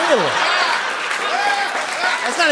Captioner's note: laughter, applause